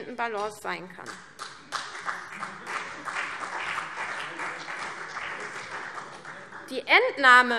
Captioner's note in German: Beifall CDU